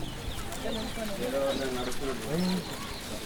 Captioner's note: cattle stomping